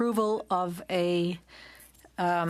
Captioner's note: speaking in French